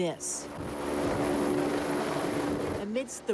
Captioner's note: helicopter buzzing